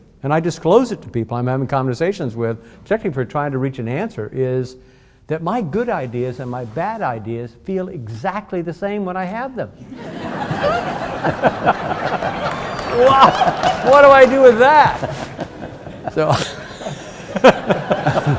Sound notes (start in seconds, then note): 9.8 audience laughs; 15.7 all laughing